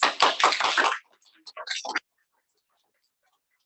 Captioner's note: people clapping